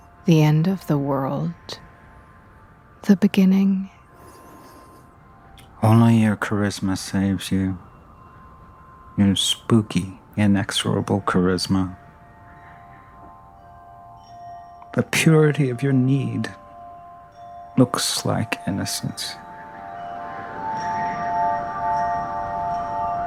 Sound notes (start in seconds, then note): 13.5 wind chimes; 19.9 wind gusting